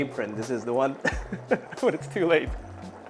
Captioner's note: laughs